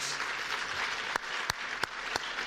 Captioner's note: applause